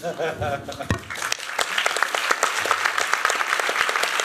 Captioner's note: applause